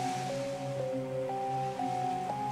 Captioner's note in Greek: τα κύματα σκάνε